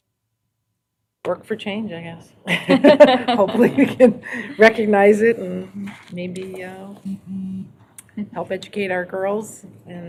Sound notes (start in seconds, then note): 2.5 laughter